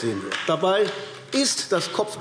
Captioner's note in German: Vereinzelter Beifall AfD